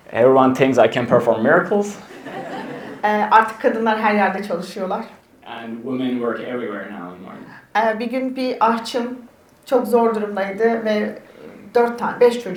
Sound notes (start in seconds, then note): 2.0 attendees laugh; 3.5 speaks in Turkish; 8.0 speaks in Turkish